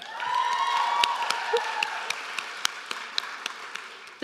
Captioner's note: applause